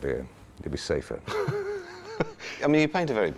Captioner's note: Anthony laughs